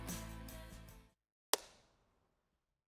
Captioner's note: clap